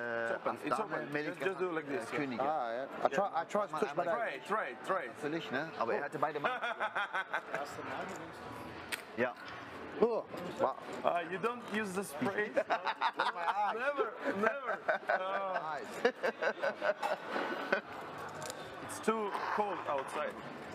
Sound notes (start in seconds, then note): 12.4 laughter; 16.2 laughs